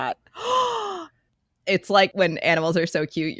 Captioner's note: gasps